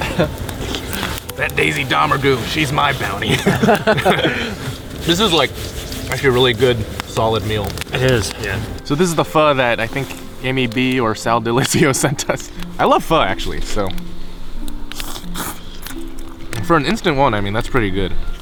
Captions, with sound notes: "That Daisy Domergue, she's my bounty" [all laugh] This is like, a really good solid meal [all agreeing] Yeah, so this is the pho that I think Amy B. or Sal Dilisio sent us I love pho, actually, so For an instant one, I mean that's pretty good